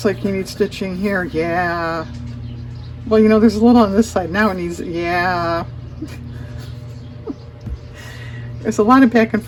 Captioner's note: laughs